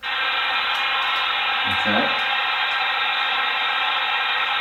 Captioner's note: white noise buzzes